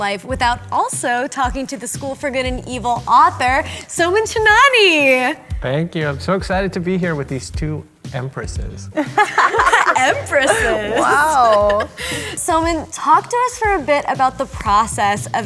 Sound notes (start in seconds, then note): 8.9 all laughing